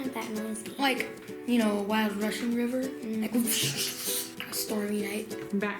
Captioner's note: whooshing